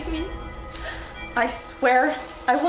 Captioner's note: footsteps